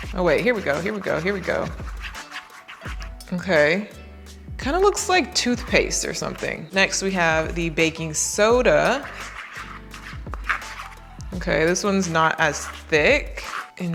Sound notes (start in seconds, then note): 8.4 knife and bowl rattling